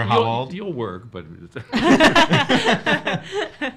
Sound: all laughing

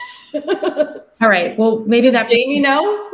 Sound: laughs

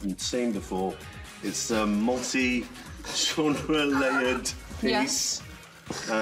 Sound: laughs

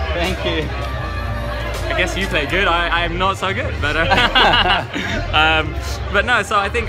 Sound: laugh

